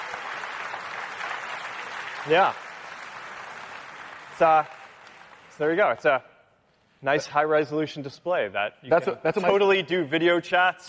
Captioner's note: cheering